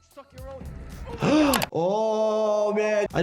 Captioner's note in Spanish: Doctor jadeando